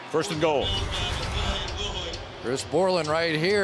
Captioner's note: pa announcement